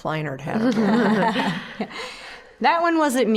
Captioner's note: all laughing